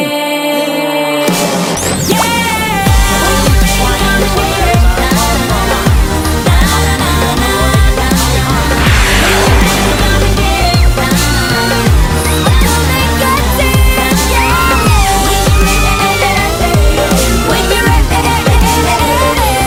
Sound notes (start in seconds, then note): 8.8 Sweet Polly Screams